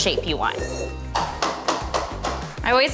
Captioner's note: tapping